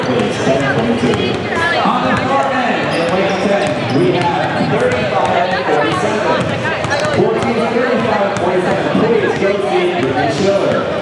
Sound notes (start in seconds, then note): 0.1 crowd chatter; 3.1 sneakers squeaking; 7.1 basketballs bouncing